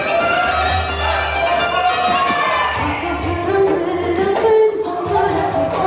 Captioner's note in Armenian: ծափահարություն